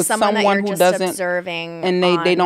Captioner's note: overlapping chatter